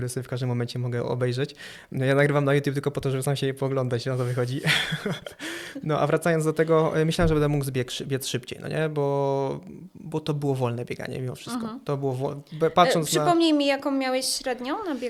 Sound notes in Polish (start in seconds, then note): 4.6 śmiech